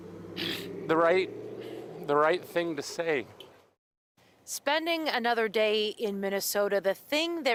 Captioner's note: crying